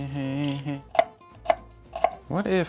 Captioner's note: knife hitting board